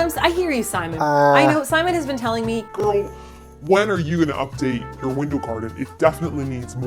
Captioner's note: deep voice